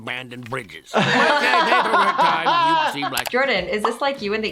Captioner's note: laughing